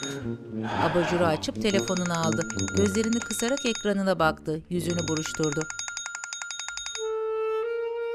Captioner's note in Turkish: Telefon zili sesi